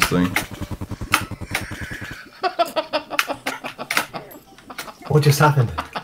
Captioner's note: laughter